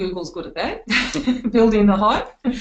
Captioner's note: laughing